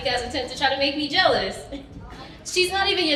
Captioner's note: giggles